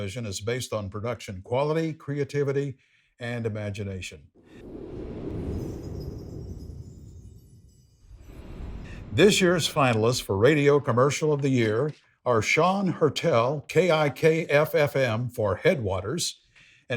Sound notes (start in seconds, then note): 4.4 wind whooshing; 5.6 bells chiming